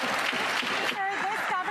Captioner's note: some Applause